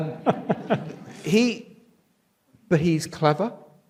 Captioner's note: audience laughs